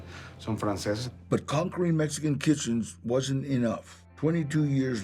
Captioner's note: in English